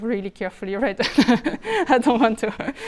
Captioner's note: speaker laughs